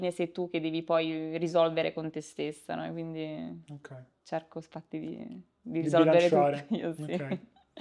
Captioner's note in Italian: risate